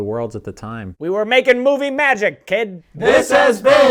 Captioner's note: old-timey Hollywood accent